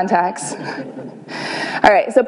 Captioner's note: laughter